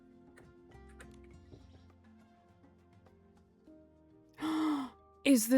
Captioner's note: gasps